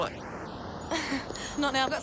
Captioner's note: Jodie laughs